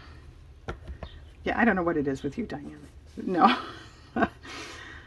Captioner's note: laughs